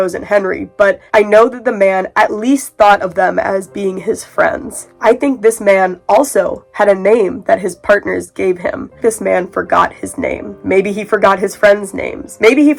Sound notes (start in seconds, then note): none